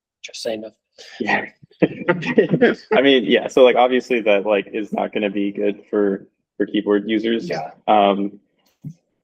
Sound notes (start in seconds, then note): 1.8 laughter